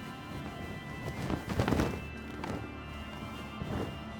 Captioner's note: sheet flaps